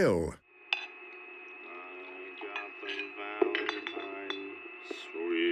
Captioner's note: bottle clinks